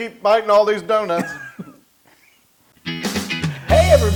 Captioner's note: laugh